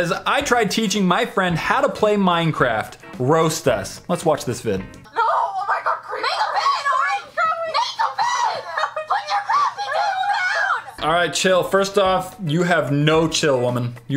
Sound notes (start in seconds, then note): 5.2 inaudible continuous screaming